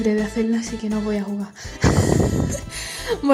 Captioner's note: whEEZ